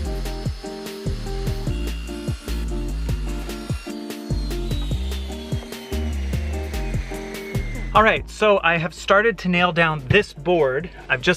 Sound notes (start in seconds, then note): 0.0 machine whirring